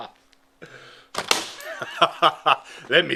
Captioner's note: glass shatters